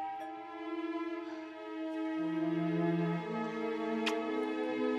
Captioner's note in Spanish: Timbre de la puerta